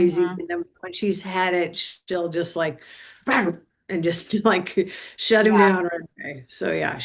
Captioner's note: vocalizes